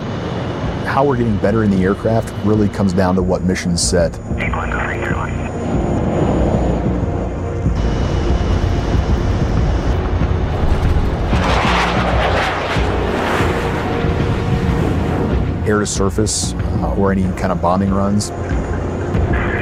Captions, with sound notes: - How we're getting better in the aircraft really comes down to what mission's set. (people chattering on radio) (dramatic music) (jet engines roaring) Air to surface or any kind of bombing runs...